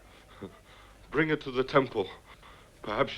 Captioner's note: chuckles